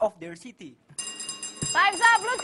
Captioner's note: buzzer rings